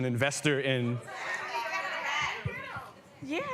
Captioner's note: people in audience yelling